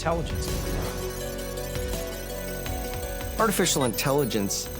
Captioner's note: computer calculating sound effect